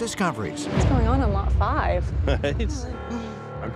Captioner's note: laughs